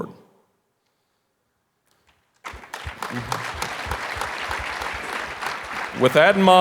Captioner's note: audience applauding